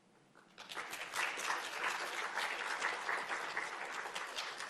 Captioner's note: audience applauding